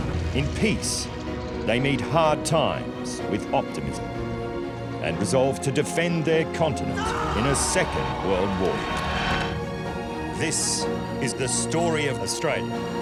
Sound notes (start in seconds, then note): 6.9 soldiers shouting